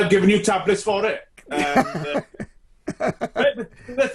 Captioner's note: laughs loudly